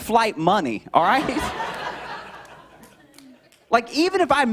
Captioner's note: laughter